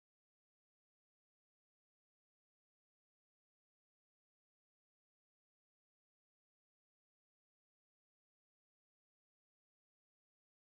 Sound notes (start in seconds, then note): none